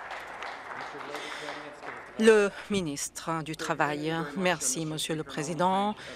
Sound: some Applause

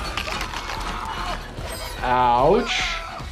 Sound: person screaming

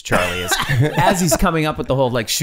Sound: Charlie laughing

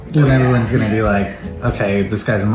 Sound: none

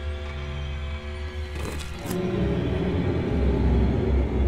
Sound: Chandler's shoe scrapes

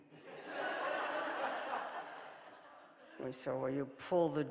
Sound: audience laughing

